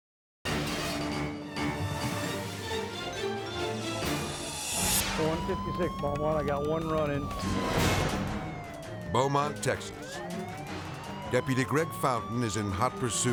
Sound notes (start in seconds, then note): 0.2 intense music; 4.1 air whooshes; 7.7 siren wailing